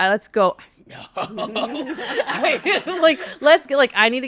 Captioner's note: attendees laughing